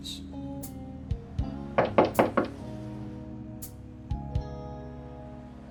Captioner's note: knocking on door